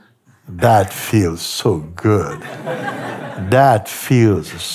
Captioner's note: Lachen